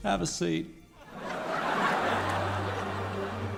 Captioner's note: crowd laughing & applauding